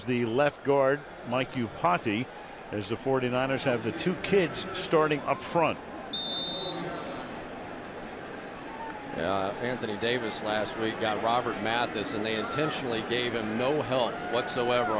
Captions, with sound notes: as was the left guard, Mike Iupati, as the 49ers have the two kids starting up front. [whistle] Yeah, Anthony Davis, last week, got Robert Mathis. And they intentionally gave him no help